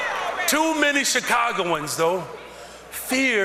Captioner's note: cheers and applause